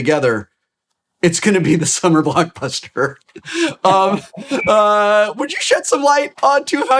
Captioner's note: laughs